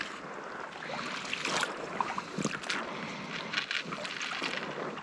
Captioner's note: water splashing